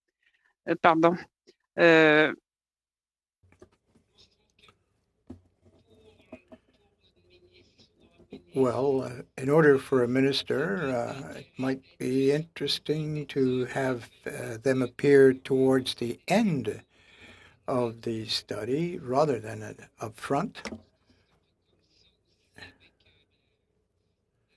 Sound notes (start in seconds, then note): 0.2 silence; 4.4 speaking French